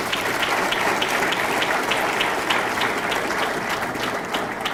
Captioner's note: audience clapping